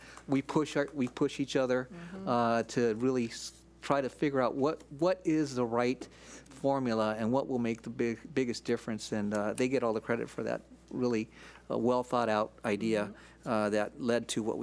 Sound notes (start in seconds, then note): none